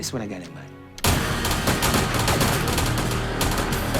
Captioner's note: guns firing